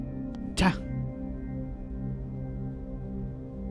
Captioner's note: sighs